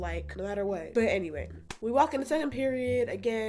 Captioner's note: clap